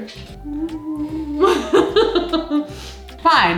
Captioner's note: laughs